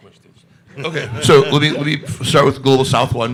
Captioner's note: everybody laughing